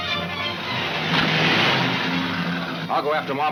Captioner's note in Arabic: محرك يدور